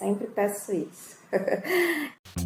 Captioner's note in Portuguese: risos